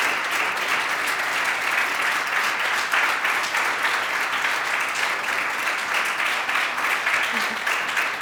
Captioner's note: clapping